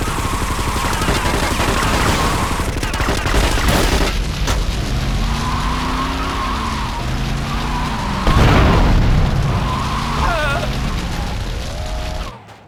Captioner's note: car horn